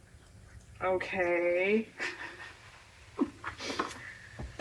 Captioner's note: laughs